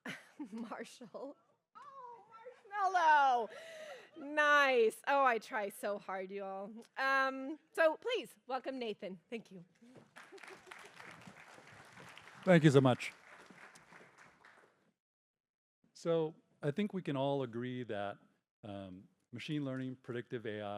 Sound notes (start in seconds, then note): 1.2 laughs; 9.8 applause